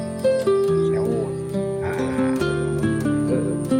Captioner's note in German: lacht